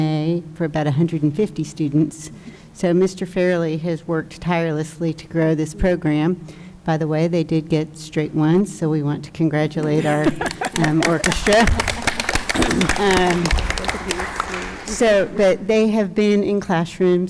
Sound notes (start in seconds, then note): 11.8 applause